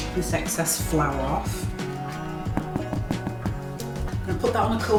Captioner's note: hollow knocking